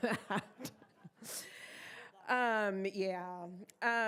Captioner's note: members laughing